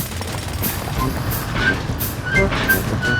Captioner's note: drilling